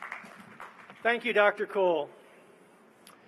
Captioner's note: applause